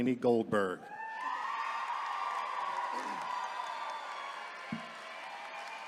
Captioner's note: attendees cheering